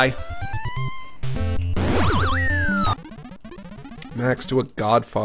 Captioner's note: game warbles; normal voice